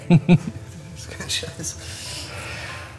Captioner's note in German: Arzt lacht